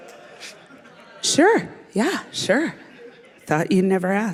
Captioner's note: laughter